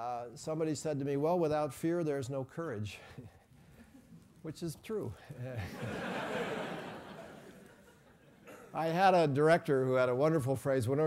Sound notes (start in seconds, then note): 5.7 laugh